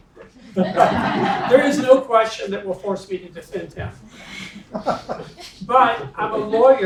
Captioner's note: laugh